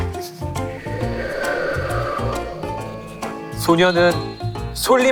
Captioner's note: A sound effect of wind